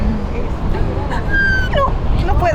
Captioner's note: squealing